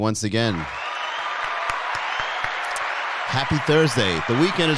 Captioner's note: cheering; applause